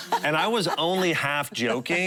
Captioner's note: laughing